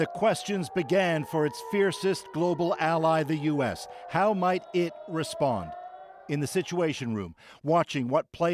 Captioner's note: sirens